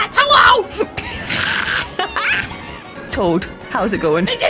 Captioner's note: cat hacking up laughter